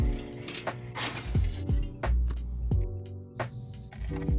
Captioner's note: toast popping